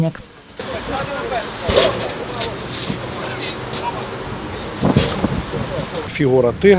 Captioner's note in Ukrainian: Брящить метал